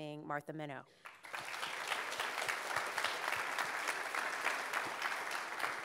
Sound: audience applauding

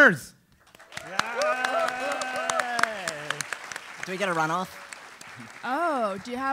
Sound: applause

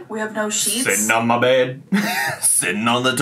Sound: laughs

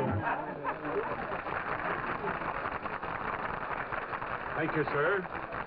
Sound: audience applauding

